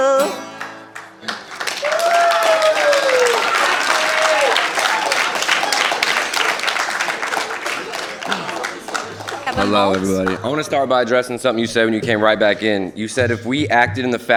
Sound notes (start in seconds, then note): 10.4 applause